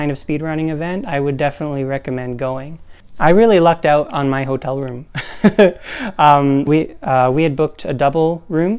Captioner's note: laugh